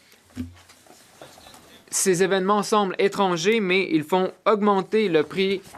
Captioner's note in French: voix de l'interprète